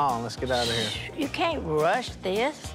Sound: shushes

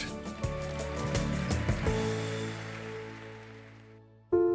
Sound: applause

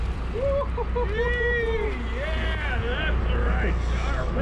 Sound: laughing; whooping

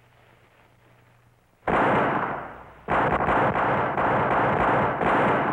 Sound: gunfire pops

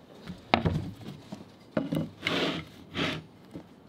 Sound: wood thudding

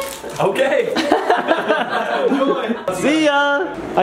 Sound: adults laugh

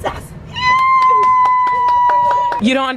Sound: cheering

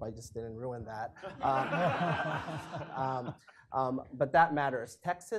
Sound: audience laughing

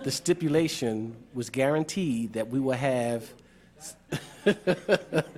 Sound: laughter

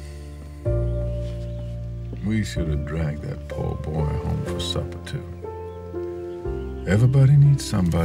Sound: none

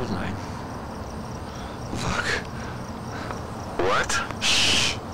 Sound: breathing; panting

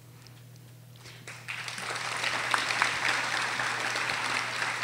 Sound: audience applauding

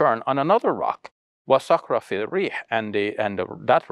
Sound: speaks foreign language

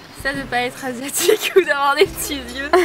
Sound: laugh

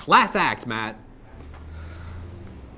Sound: sigh

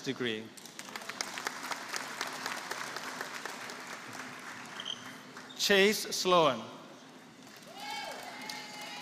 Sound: applause

